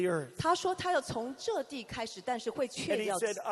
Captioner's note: interpreter speaking in foreign language